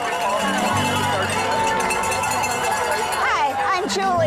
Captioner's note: bells tolling; crowd clamoring